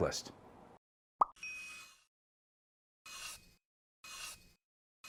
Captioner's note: pencil scratches